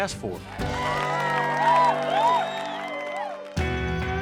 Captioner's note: crowd cheers, claps